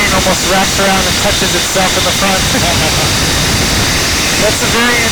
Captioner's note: laugh